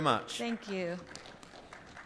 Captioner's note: audience applauds